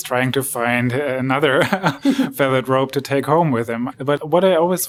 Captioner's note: laughs